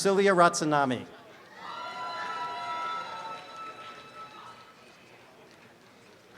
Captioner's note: applause and cheering